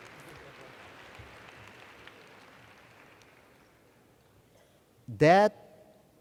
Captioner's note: cheers